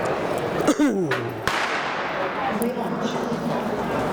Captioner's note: coughing